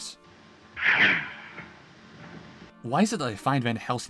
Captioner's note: hissing